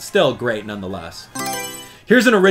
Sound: Mario Selection Sound

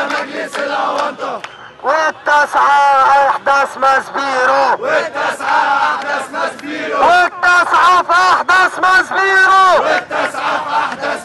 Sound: chants

